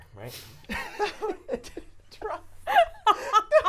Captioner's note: laughing